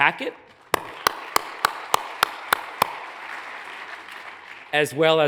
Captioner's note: hands clapping; audience applauds